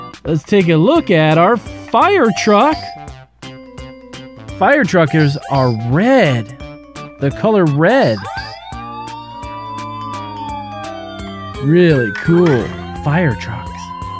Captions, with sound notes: Let's take a look at our firetruck. Firetruckers are red, the color red. (siren wails) Really cool firetrucks.